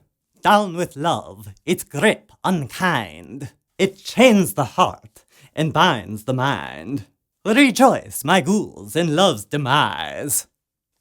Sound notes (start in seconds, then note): none